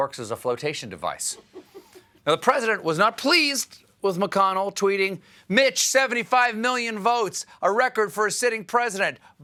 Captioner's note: laughter